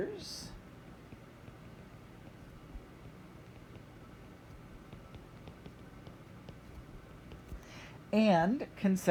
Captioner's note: writing